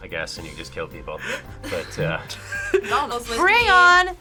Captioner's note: both laugh